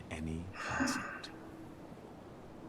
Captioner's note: sighs